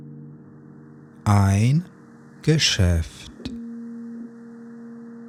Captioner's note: german